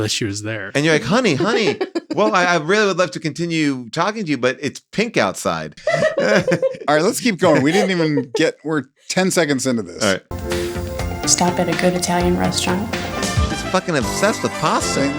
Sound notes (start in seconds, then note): 5.7 all laughing; 10.0 upbeat music